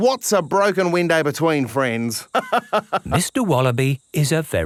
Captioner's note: laughs